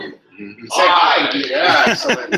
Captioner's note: multiple voices